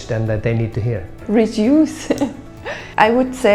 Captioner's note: laughs